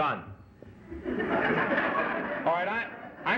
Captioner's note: laughter